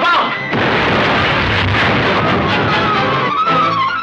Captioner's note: explosion booms